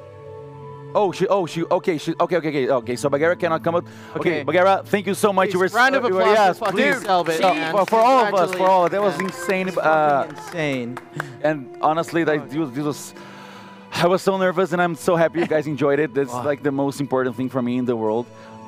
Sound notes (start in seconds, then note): 5.6 A round of applause!; 6.2 applause